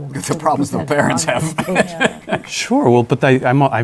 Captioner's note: laughs